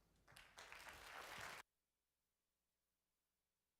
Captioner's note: audience applause